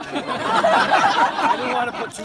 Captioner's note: laughter